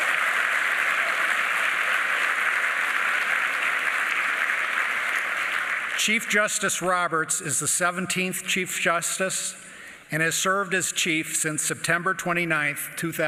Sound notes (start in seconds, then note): 0.0 applause